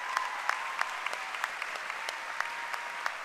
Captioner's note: cheering and applause